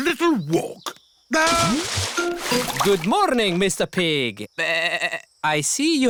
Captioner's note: bleats